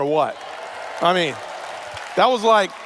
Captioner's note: cheers